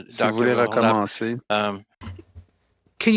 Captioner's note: speaking French